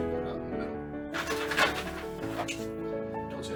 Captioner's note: crash